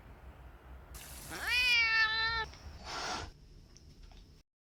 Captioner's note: cat hissing